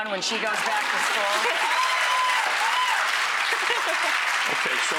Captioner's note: crowd applauding